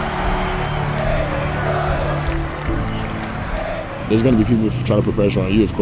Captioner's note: crowd; clapping